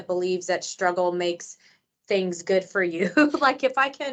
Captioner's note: chuckles